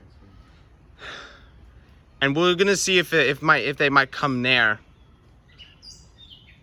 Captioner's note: exhales